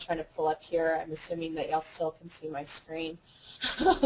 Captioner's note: laugh